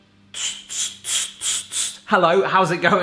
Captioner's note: whooshing